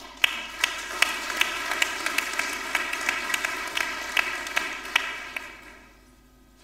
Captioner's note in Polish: oklaski